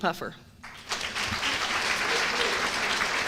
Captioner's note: applause